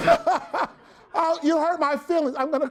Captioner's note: everyone laughs